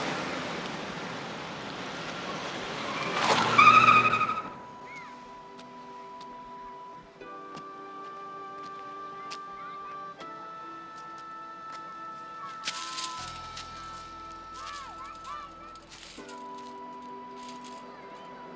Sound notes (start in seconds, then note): 3.0 tires screech; 4.6 dramatic music playing